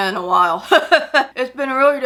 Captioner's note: laughs